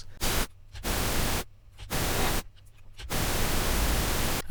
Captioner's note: pink noise crackling